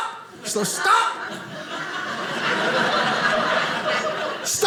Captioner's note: audience laughing